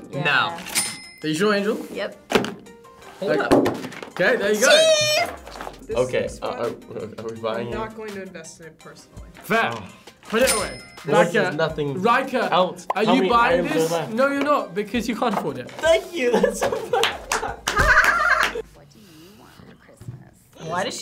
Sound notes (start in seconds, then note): 16.2 laughs; 17.7 giggles